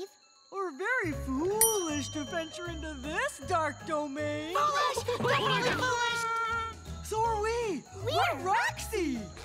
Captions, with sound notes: Or very foolish to venture into this dark domain. - Foolish. We're very foolish. - [crying] So are we. We are Roxy.